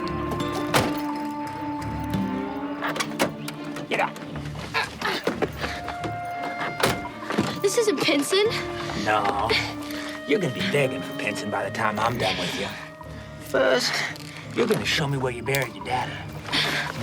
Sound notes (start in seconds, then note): 4.6 Moon grunts